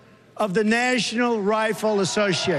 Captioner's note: crowd booing